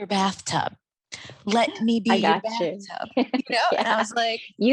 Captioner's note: chuckling